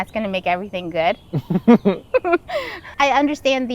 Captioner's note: laughing